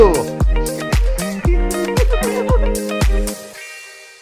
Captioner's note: laughs